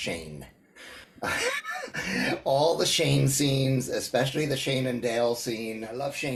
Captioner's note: laughs